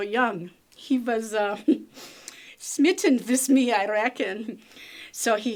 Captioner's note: laughs